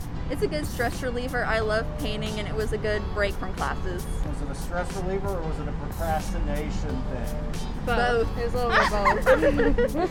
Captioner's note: laugh